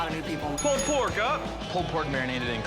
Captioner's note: bell dings